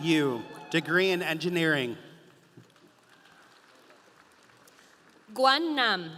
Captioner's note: audience applauding